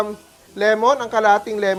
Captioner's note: sizzles